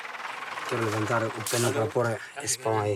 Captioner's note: Portuguese spoken audio